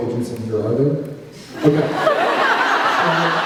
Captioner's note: laughs